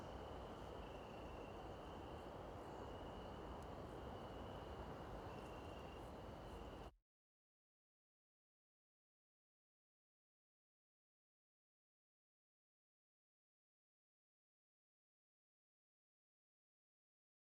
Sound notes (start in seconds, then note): 6.9 silence